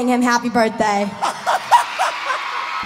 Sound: laughing

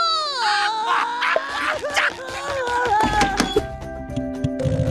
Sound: crying; laughing

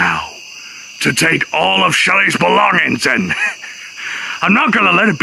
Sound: snickers

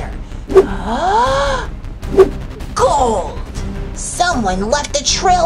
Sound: gasps

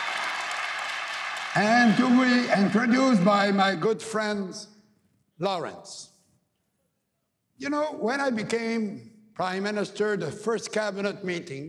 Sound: cheering and APPLAUSE

